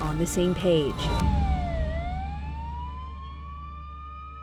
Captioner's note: siren wailing